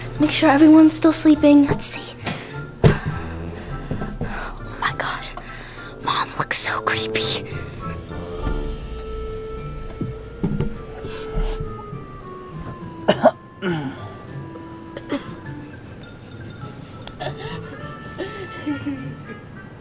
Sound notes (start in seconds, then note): 13.0 coughing; 18.1 laughing